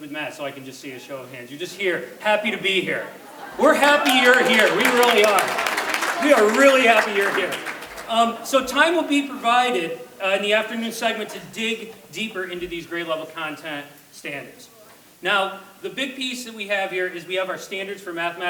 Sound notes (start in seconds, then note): 7.3 audience clapping